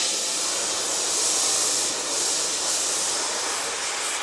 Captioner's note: bunsen burner hisses evenly